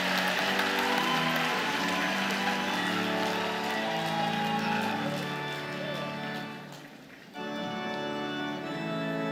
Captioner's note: cheers and Applause